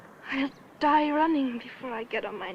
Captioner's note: none